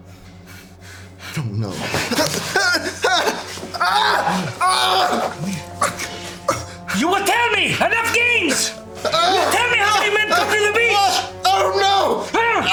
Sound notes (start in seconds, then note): 2.2 prisoner whimpering